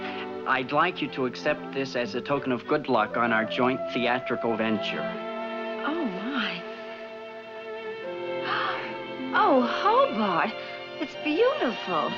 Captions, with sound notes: I'd like you to accept this as a token of good luck on our joint theatrical venture. Oh, my! (gasps) Oh, Hobart! It's beautiful!